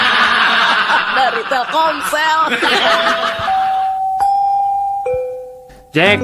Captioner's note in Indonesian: tertawa; tertawa